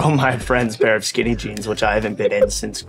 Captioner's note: laughing